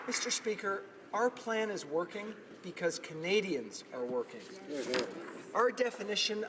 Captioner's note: applause